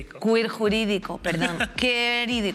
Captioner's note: laughter